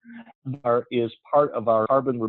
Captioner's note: audio skips